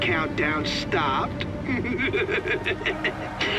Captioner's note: cackles